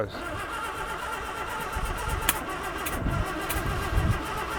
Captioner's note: engine rumbling